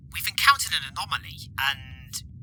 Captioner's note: radio voice